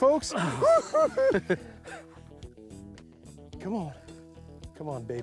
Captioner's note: laughter